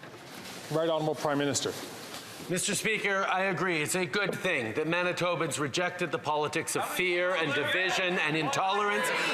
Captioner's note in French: voix de l'interprète